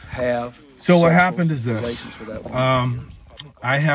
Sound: deep breath; mic peak

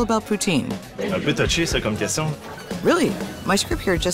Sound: speaking in French

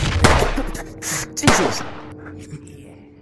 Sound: gunshot; shotgun fire; struggling sounds

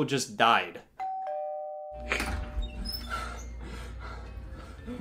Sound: doorbell rings

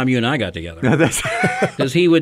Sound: co-hosts laugh

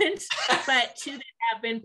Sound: laughs

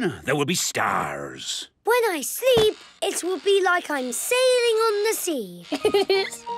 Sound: laughing

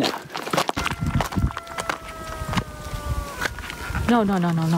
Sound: high-pitched howling

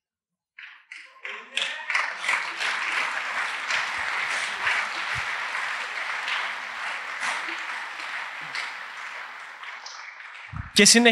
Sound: appaluse

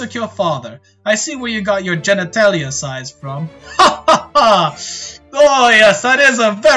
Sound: douche laugh

